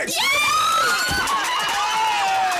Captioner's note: clapping; squealing